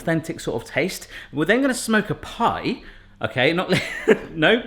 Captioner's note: laughing